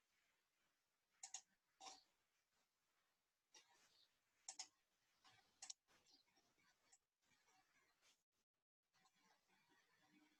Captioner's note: mouse clicking